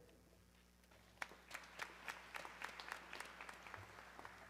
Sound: audience clapping

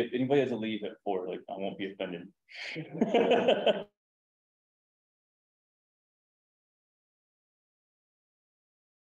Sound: laughs

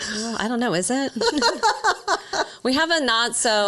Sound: both laughing

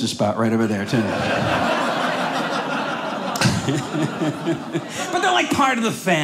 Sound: audience laughing

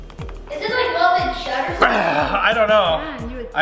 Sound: upbeat band music; exhales

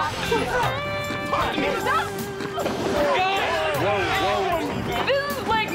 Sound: arguing

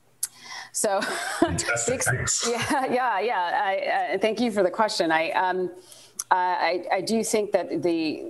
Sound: laughs

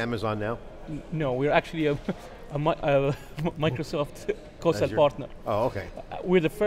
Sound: laughs

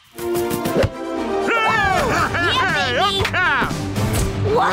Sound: cheering

